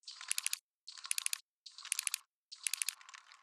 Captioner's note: clicking